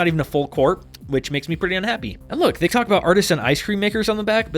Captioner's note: annoying tongue click